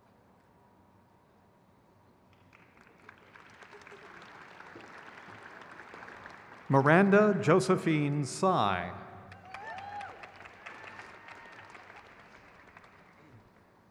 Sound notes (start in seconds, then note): 2.9 crowd cheers